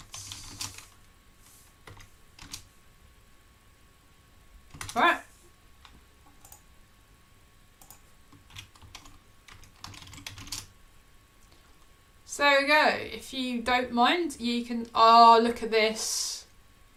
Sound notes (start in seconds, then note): 0.1 keyboard clicking; 7.9 keyboard clicking